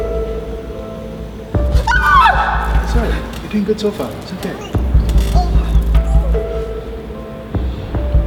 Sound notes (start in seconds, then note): 1.6 squeal; 4.8 gagging